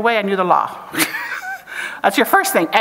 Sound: chuckles

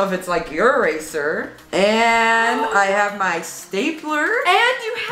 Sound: gasps

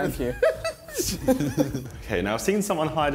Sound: laughs

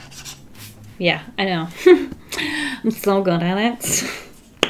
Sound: giggles

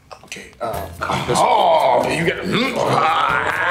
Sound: men yelling

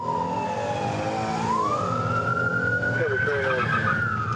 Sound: sirens wailing

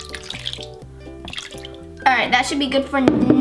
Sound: liquid pouring

